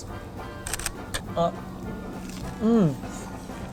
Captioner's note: camera shutters